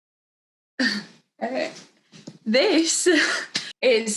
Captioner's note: laughs